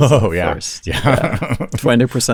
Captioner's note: laughs